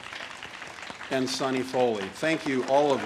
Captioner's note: audience applauds and cheers